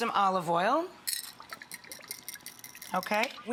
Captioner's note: oil splashes